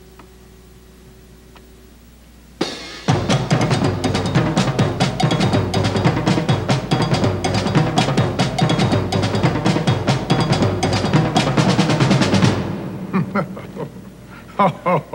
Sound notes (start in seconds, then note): 2.6 drum music; 9.9 chuckling